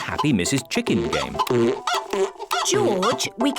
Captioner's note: chicken clucking